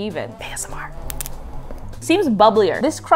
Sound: crust crinkles

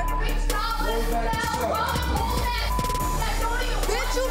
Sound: beep

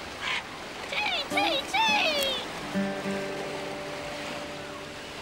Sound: squawks

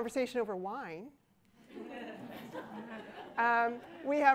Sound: laughter

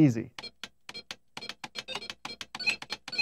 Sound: beeping

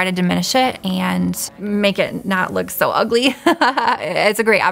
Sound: laughs

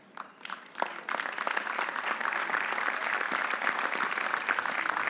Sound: audience applauding

